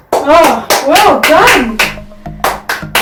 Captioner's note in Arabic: تصفيق